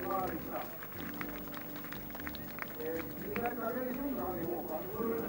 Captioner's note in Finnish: Aplodeja